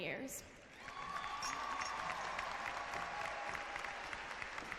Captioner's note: clapping and cheering